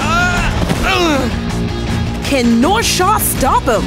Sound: grunting

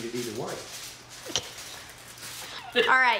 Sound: laughing

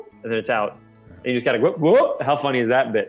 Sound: shouts

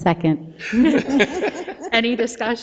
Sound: members laugh

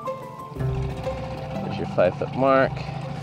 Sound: boat engine patters

